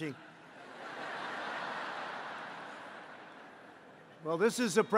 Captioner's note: laughter